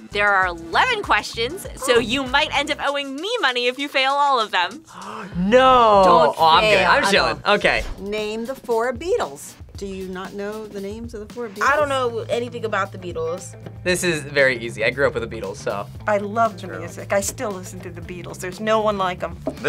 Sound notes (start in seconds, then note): 4.8 gasps